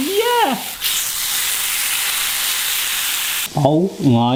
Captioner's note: steak sizzling